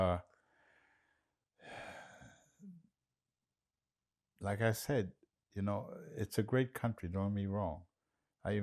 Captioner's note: sighing